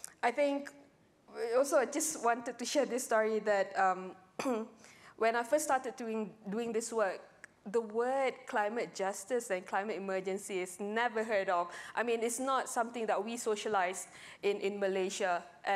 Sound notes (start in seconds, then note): 4.4 clears throat